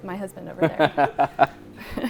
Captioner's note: laughing